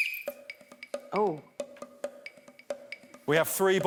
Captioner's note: blows whistle